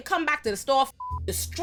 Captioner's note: beep